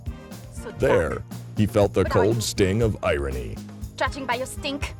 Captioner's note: voiceover